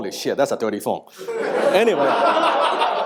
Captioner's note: audience laughing